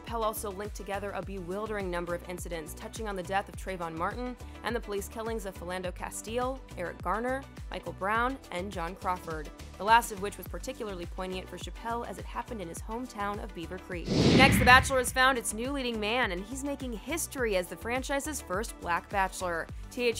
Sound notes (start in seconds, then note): 14.0 air whooshes